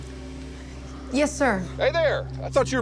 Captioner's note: on phone